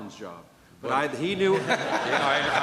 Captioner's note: laughter